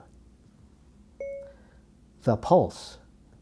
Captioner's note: phone beeps